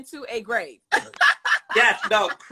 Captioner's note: Monique laughs